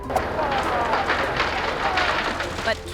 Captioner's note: yacht crumbling